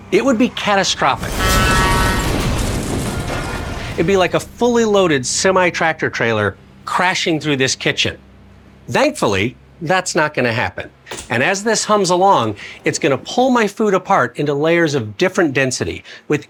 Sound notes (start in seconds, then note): 1.7 horn blaring; 1.7 vehicles thudding